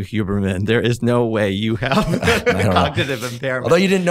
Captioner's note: laughs